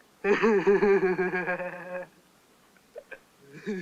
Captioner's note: mocking giggle